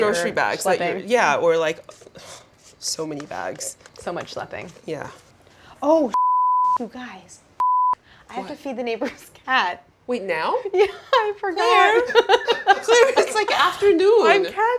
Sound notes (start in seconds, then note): 7.6 beeping; 12.0 laughing